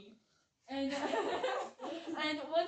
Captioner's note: laughs